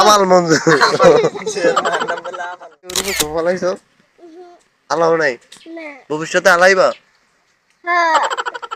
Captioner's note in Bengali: সশব্দ হাসি